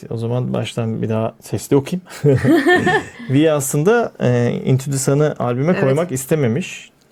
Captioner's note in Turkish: kahkaha